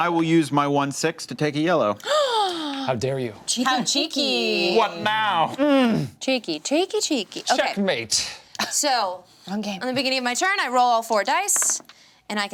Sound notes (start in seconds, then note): 2.0 gasps